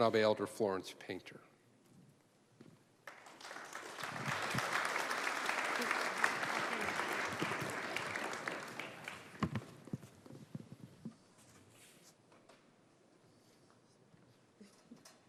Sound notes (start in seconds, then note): 3.0 applause